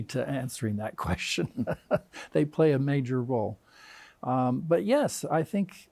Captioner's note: chuckles